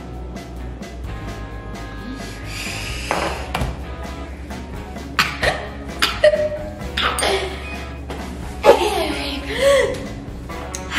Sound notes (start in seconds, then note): 5.1 coughs; 8.2 upbeat music